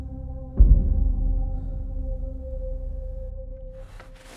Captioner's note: heartbeat stops